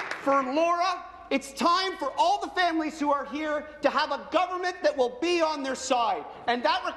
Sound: applause

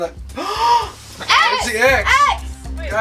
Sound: gasps

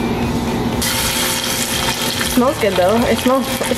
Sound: oil sizzles

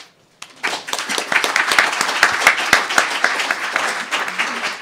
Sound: applause

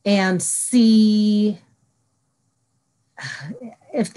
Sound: silence

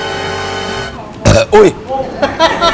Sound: burp!!

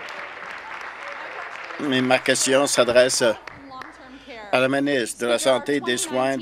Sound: applause

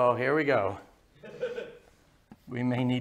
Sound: laughter

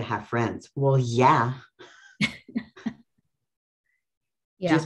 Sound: pair laughs

